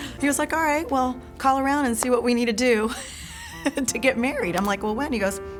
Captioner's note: laugh